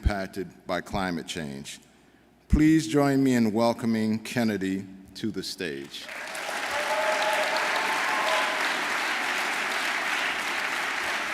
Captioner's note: applause